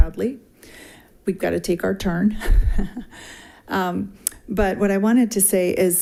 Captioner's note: chuckles